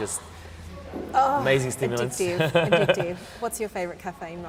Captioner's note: laughs